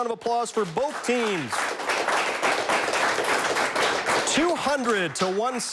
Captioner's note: audience applauds